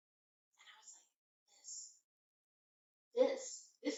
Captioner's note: whispers